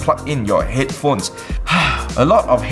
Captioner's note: sighs